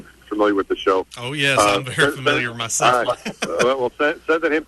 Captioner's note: laughs